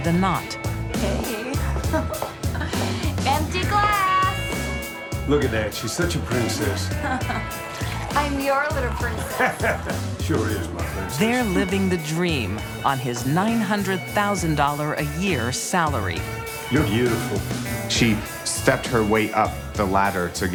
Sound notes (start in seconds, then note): 0.9 giggles; 6.1 laughs; 9.0 chuckles